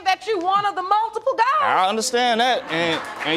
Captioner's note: applause